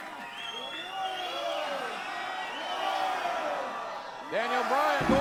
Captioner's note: audience cheering